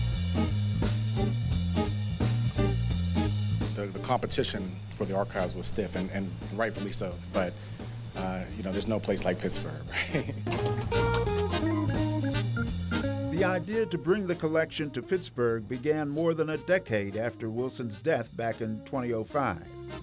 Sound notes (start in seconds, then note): 0.2 upbeat background music; 9.8 chuckles; 11.1 upbeat background music